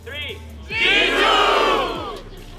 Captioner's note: shouting